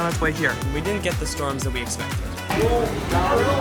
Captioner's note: voiceover